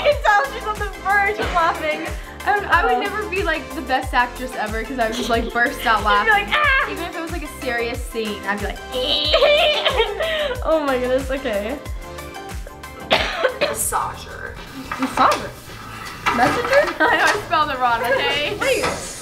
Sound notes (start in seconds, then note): 8.9 laughing; 12.9 coughing